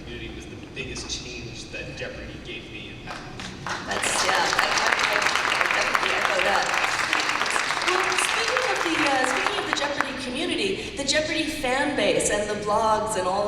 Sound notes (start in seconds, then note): 3.0 applause